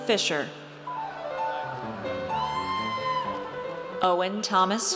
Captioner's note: audience cheers